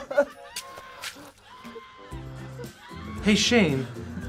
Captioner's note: whimpers; people screaming; stabbing sounds